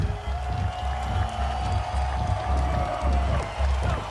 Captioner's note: audience cheers